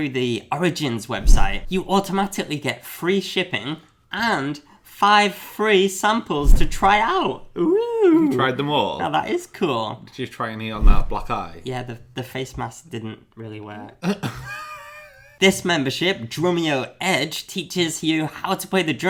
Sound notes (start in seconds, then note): 14.0 laughing